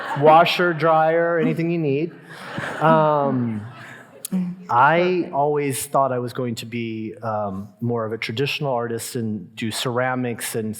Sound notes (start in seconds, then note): 2.2 audience laughing